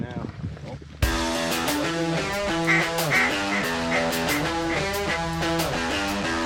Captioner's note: rock music; duck calls quacking